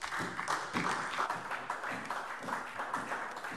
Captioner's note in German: Beifall SPD